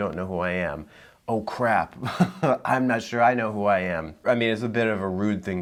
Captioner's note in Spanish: risas